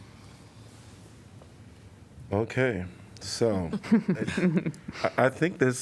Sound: laughter

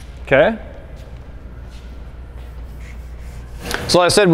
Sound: sound of machine in the background

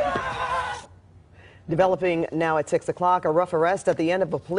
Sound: shouting

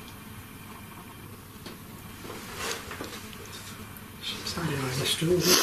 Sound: gentle creaking

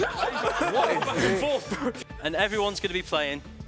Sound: laughing drowns out speaking

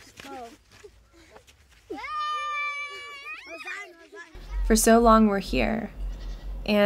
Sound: kids talking

